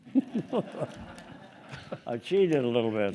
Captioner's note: group laughing